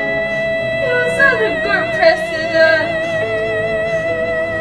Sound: cries

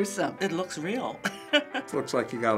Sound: chuckles

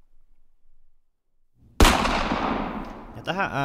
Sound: gunshot

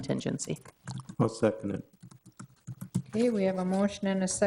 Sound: keyboard clicking

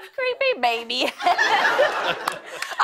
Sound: laughter

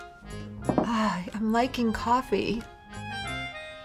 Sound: sighs

